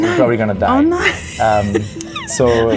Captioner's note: laughs